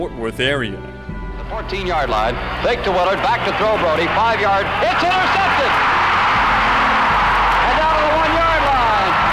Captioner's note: crowd roaring